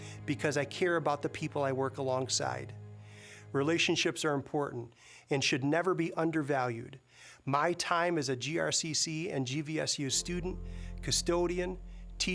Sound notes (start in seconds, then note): none